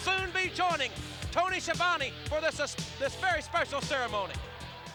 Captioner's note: none